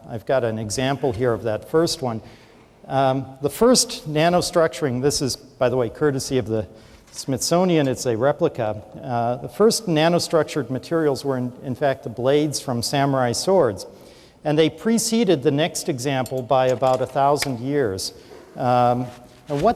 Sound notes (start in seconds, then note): none